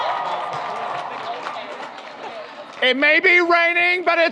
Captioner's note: audience cheers; audience applauds